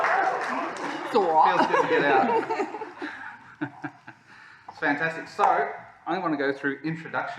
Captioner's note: laughter